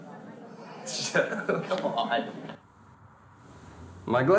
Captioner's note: laughing